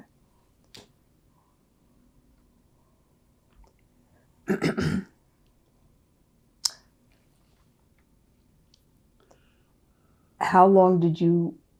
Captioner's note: pauses 10 seconds